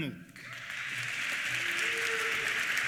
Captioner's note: applause; cheers